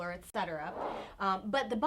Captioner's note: air whooshing